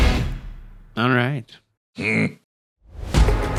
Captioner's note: grumble